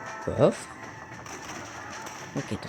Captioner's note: random bullet noises and screams of zombies